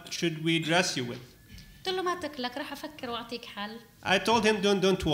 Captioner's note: speaking arabic